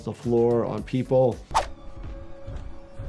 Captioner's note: suspenseful music; graphics swishing; character shuffling